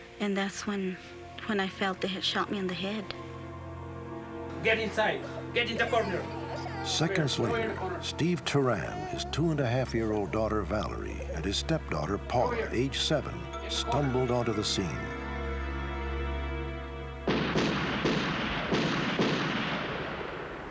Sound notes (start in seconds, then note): 17.2 gun shots